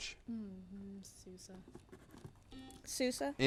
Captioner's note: buzzer buzzes